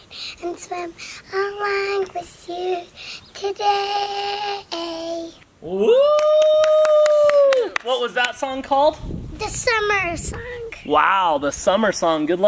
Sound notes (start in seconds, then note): 5.7 wooing